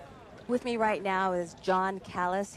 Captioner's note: murmurs